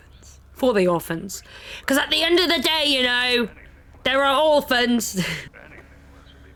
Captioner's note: laughs